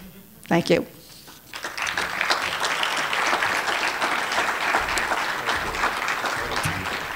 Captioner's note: applause